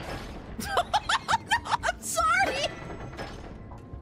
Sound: laughter

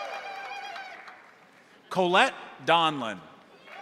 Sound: crowd applauding; crowd cheering; joyous ululating

